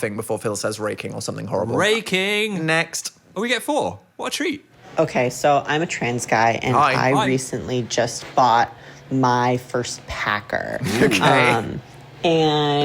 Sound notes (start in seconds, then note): 10.8 laughs